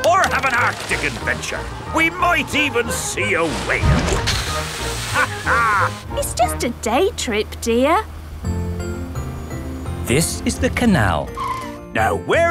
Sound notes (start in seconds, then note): 5.1 captain dog laughs